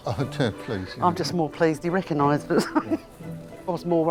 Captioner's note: laughs